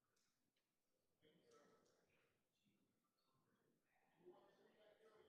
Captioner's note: group chattering